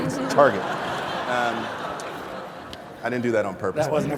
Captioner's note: laughter